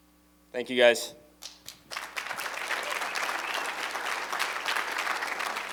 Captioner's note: applause